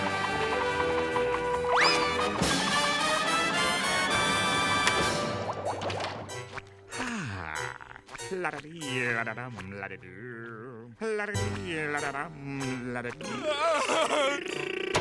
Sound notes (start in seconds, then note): 6.9 sighing; 7.7 humming; 12.9 laughing